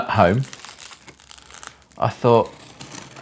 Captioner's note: tape crinkles